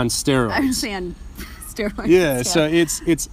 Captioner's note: laughs